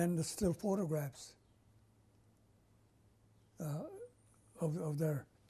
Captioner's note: pauses for 3 seconds